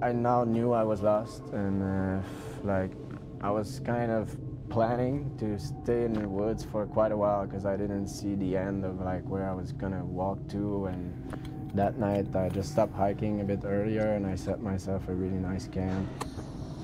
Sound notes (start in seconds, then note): 5.2 voiceover